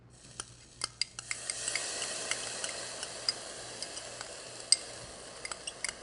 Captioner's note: clinking glass